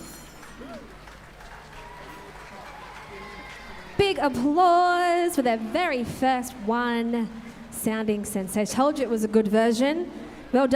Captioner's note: applause